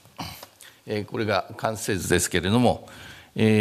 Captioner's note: speaking japanese